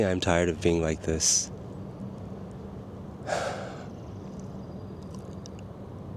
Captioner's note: sigh